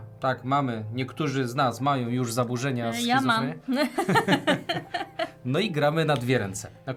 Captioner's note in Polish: śmiech